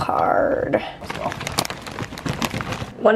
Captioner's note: plastic crinkling